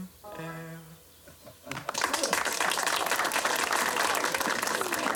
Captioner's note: all clapping